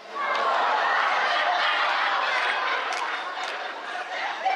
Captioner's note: laughter